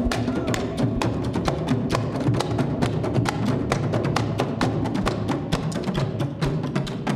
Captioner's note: performers shouting in Indonesian